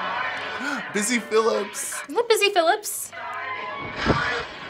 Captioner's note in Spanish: jadeos